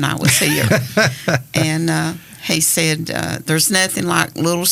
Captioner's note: laughs